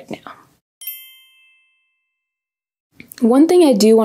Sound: chiming

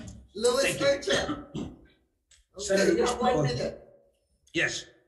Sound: indistinct conversation

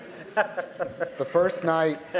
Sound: laughter

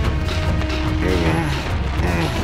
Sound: groaning

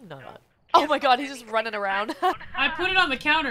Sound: laugh

